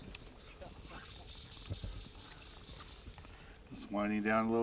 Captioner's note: reel whining